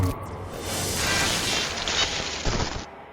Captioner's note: digital static